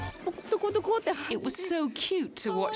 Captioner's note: speaking foreign language